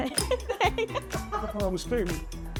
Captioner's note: laughs